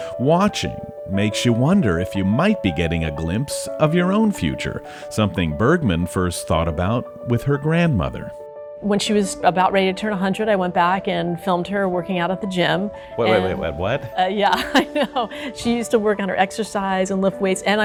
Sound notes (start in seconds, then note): 14.5 chuckles